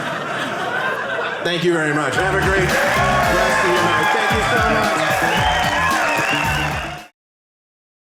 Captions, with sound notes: Thank you very much. Have a great rest of your night. Thank you so much. (audience cheering)